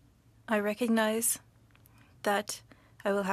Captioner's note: speaking French